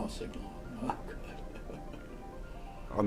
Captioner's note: chuckles